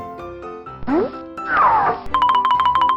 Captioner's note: futuristic blooping; alternating high-pitched piano keys